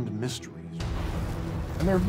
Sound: explosion

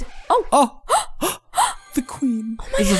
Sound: gasp

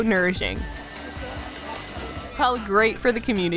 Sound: blender Grinding

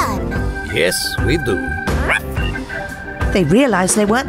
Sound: they both bark

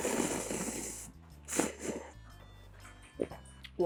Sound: inhaling like a vacuum cleaner

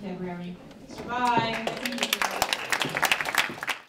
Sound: applause

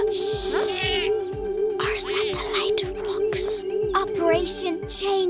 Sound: whispering

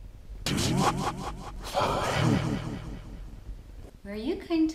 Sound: distorted voice in foreign language

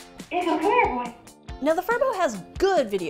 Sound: Furbo clearly repeats audio

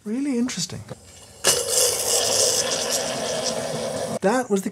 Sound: pot rumbling

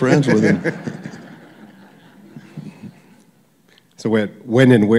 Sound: laughter

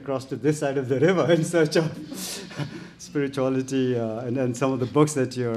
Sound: chuckles

